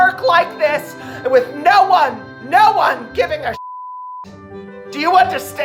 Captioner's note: beep